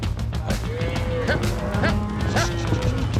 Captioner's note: cows moo